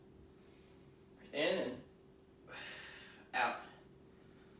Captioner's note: exhaling